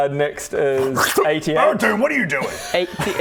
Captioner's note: slurp